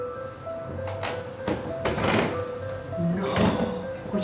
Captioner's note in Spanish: Escalera crujiendo